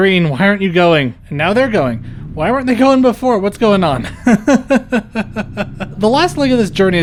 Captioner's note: laughter